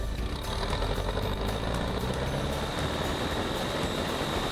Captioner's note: engine revs